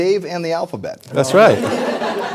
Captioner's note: laughter